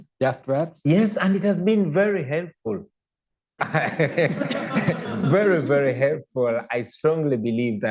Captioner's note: laughter